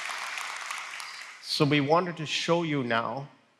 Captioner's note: applause